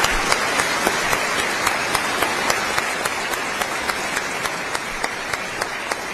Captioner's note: applause